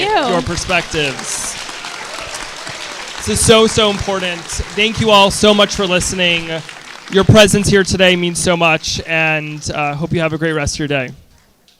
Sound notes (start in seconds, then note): 4.4 applause